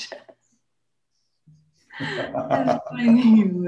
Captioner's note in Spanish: risas